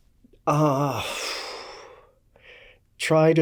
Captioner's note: sighs